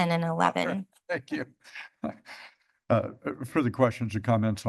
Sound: laughs

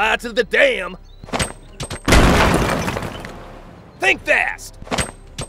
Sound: grenade explodes

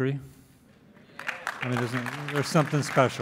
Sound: applauding

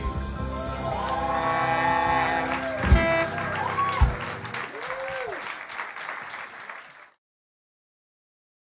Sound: applause

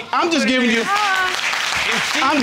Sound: audience applauding

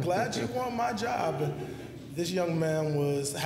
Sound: laughter

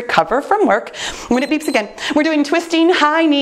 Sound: timer beeps

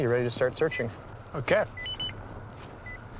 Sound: beeps

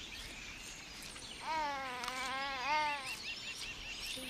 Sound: baby cooing

